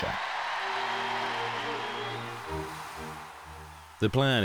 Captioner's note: crowd cheering